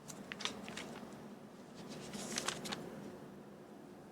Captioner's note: paper rustling